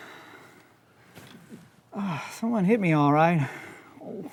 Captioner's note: groans